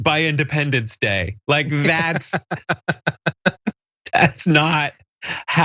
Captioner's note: laugh